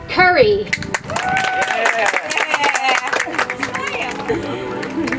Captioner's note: audience applauds; soft music